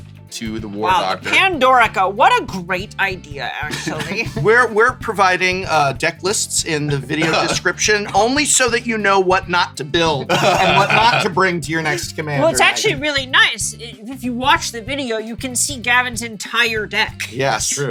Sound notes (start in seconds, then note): 10.0 laughs